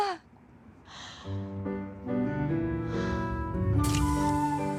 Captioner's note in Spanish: Suspiro